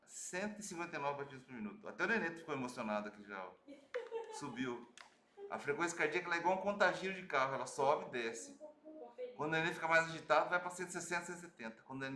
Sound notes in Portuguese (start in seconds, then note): 3.7 risos